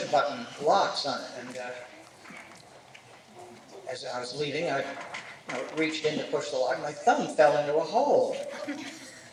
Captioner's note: laughter